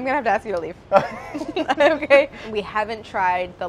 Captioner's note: all laughing